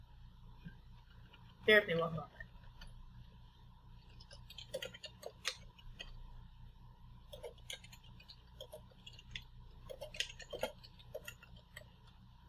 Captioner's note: sounds of typing